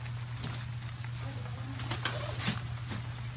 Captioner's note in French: bruit de pluie